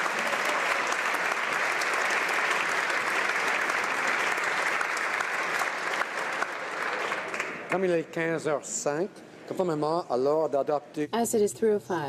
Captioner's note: applause